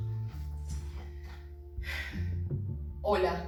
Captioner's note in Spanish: Suspiro